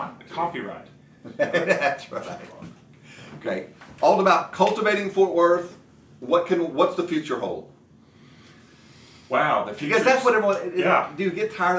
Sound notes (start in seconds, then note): 1.3 laughs